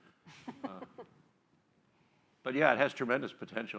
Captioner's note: laughs